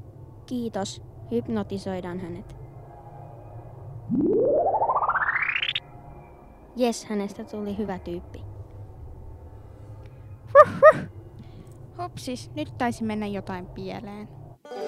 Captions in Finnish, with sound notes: Kiitos. Hypnotisoidaan hänet. [ hypnotisoinnin ääniä ] Jes! Hänestä tuli hyvä tyyppi. Vuh, vuh. Hupsis, nyt taisi mennä jotain pieleen...